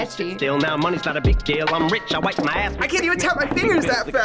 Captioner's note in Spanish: dedos tocando